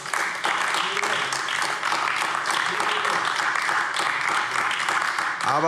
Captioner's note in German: Beifall AfD